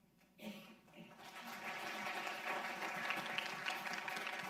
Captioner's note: audience clapping